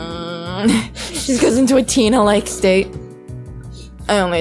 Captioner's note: laughs